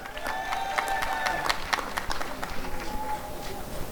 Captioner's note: applause and cheering